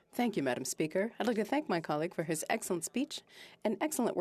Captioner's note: speaking French